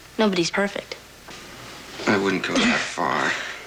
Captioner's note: laughs